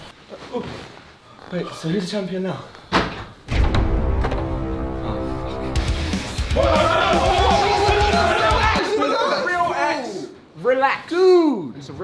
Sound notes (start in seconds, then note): 3.5 ominous music; 5.9 heavy metal music; 6.8 shouting in protest